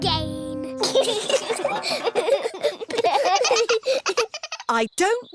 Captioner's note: all giggling